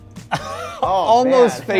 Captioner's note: laughs